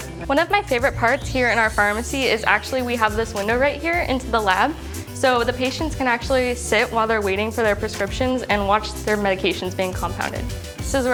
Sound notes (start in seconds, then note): none